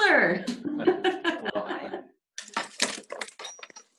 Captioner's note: laughing